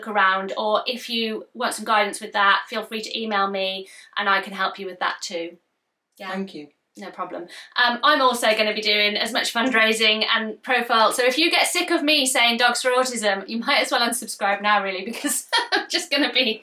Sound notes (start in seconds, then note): 15.2 laughs